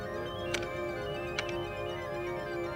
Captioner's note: buttons clicking